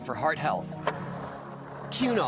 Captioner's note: skateboard wheels roaring